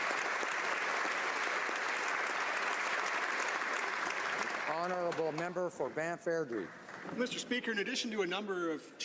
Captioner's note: applause